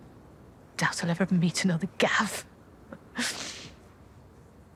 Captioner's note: she chuckles, softly